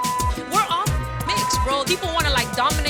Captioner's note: beep